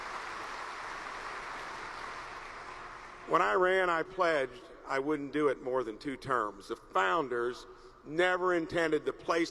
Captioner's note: applause